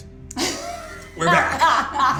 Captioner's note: laughter